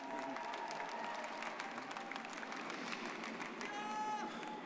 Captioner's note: crowd cheering